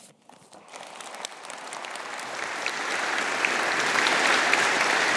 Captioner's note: audience applauding